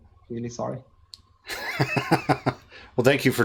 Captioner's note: laughs